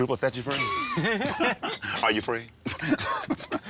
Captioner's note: chuckles